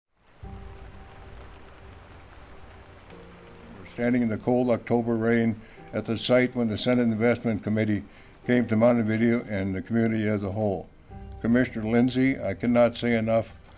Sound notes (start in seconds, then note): 0.4 rain pattering